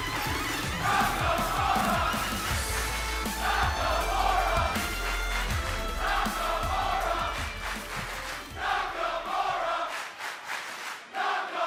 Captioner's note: fans chanting